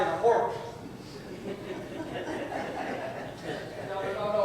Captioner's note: audience chuckles